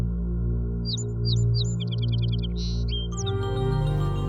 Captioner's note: birds chirping